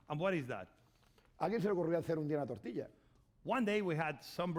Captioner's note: speaking spanish